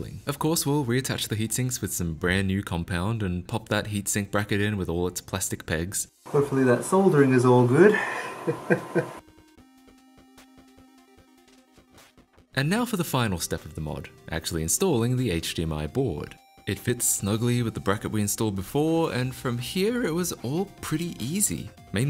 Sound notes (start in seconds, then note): 7.8 laughs